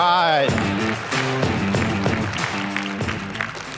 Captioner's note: applause